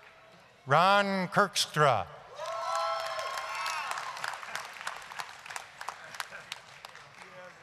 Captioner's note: applause